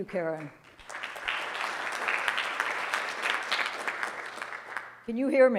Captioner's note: audience applauding